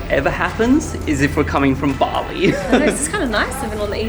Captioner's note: laughs